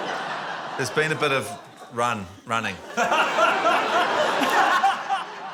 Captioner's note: laughter